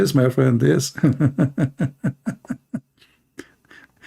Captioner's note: Ketawa